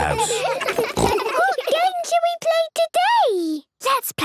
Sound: giggles, snorts

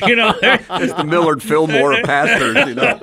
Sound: friends laughing

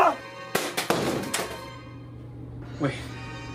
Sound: game clanking

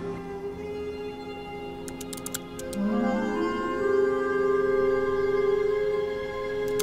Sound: tranquil music; text typing

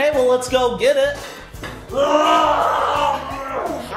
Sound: roaring

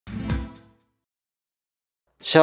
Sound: Taiwanese

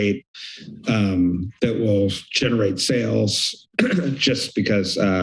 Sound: clears throat

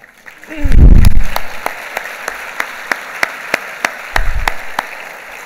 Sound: clapping

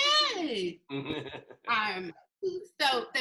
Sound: laughs

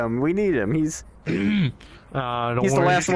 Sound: clears throat

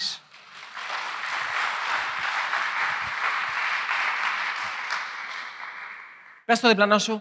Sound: applause

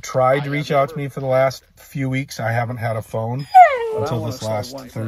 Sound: dog whine

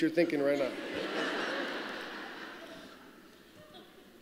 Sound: laughter

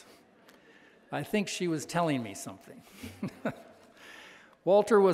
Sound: chuckles

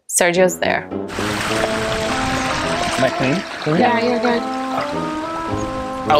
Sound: purl of water

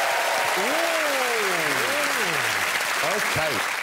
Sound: audience clapping and cheering

